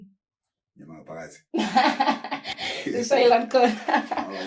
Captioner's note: laughing